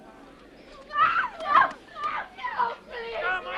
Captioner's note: resident screams